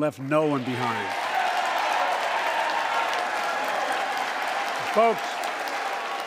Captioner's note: applause